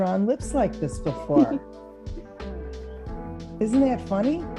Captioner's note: laughs